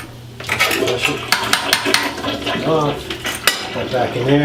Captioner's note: toilet flushing